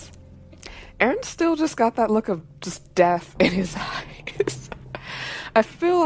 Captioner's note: laughs